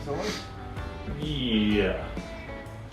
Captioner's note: male Voice